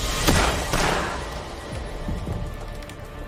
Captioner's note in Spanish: Disparos